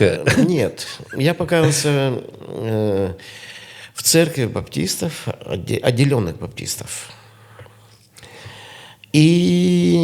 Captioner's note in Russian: откашливается